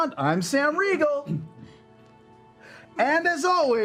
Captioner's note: silence